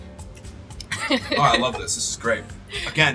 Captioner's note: laughing